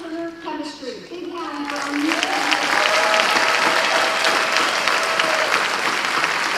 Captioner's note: drowned out by applause